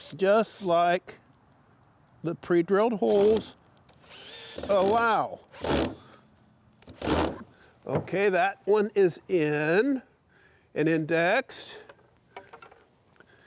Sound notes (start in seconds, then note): 4.0 drill whirring; 6.8 wood ratcheting